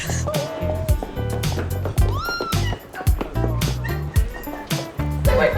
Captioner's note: Vivian screaming